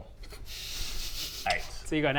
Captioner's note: snickering